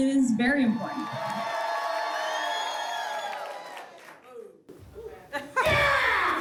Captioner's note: applause and cheering cont